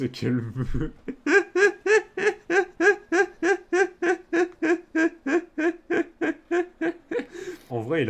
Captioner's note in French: Rires